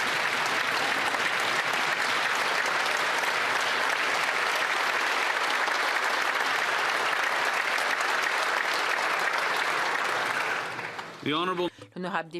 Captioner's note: some Applause